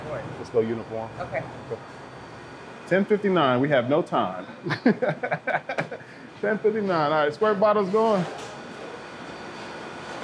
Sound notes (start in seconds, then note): 4.6 chuckling